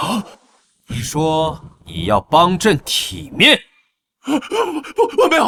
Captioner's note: sarcastic/Threatening